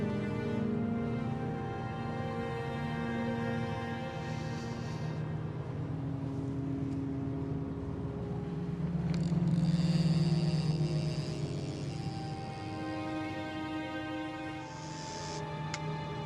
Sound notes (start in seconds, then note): 9.8 fishing reel ticking